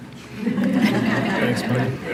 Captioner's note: audience laughing